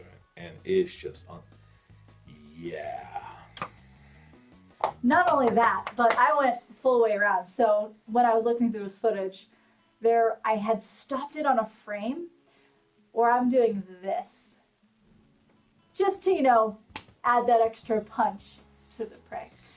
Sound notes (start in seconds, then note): 5.0 hitting chair; 16.9 punches palm